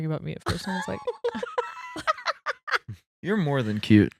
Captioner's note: laughing